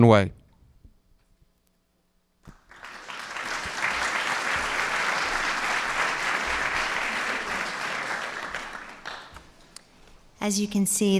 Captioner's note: applause